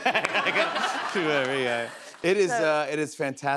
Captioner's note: laughter